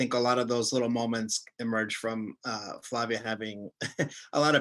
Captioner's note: chuckles